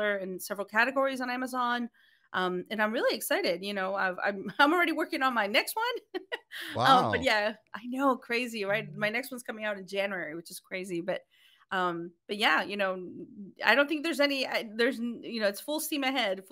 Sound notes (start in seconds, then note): 6.7 laughing